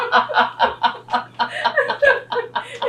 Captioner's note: laughter